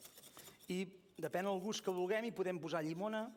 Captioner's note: non-english speech